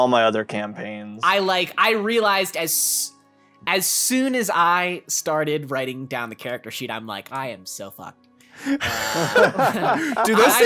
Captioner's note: laughs